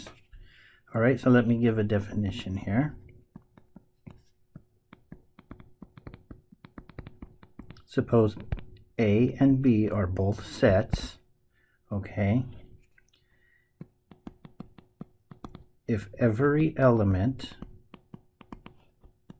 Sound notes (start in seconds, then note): 3.1 tapping Sounds; 17.4 tapping Sounds